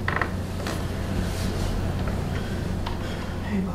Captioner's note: door opens